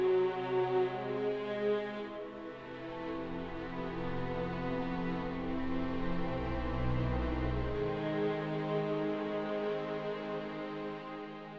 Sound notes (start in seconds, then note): none